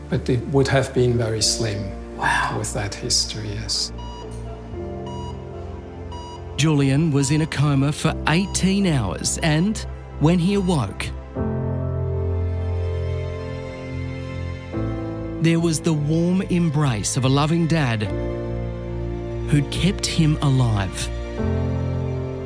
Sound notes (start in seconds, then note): 5.0 beeping; 11.5 peaceful music